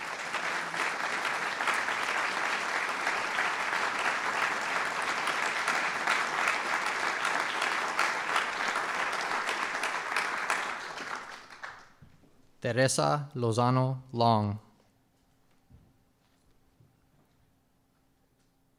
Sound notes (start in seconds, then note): 9.9 applause